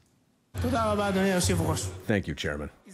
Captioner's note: speaking in hebrew